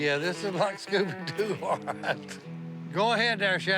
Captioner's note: laughs